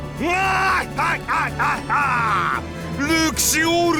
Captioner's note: laugh